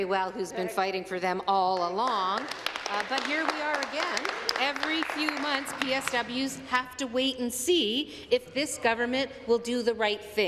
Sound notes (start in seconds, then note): 1.8 some Applause